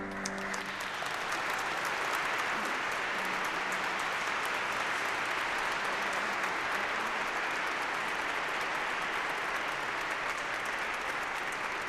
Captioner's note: piano music; applause